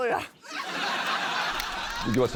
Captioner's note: laughter